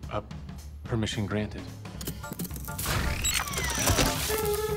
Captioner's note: mar17 whirs